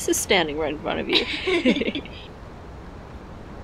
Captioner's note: both laughing